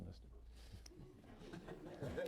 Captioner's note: laughter